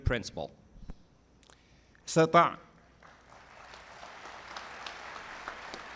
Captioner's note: applause